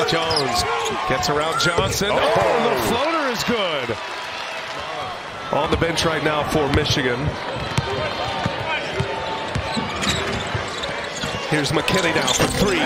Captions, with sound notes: [ CHEERS AND APPLAUSE ] [ CROWD NOISE ] >> GOTTA KEEP AN EYE ON CADEAU, AND JONES. NOT ONLY ARE THEY JAWING, BUT, EVERY CHANCE THEY GET, THEY MICHIGAN RIGHT NOW. >> THEERS McKENNEY NOW FOR THREE. HERE'S McKENNEY NOW FOR THREE.